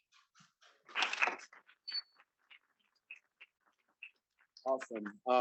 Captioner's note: students clapping